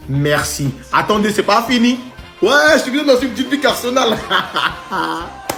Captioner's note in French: rires